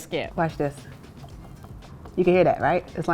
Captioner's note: biscuit knocking